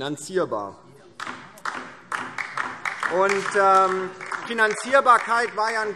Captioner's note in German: Beifall DIE LINKE